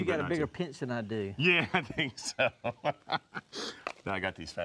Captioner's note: laughs